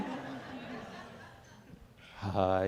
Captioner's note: audience Laughing